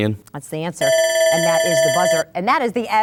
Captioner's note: bell